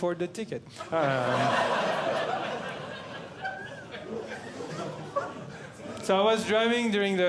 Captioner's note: audience Laughing